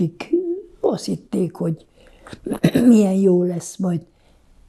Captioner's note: clears throat